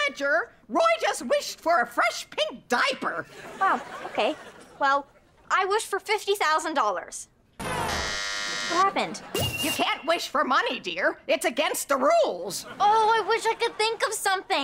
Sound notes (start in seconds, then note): 7.6 buzzing